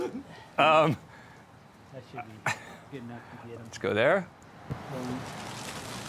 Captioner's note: laughs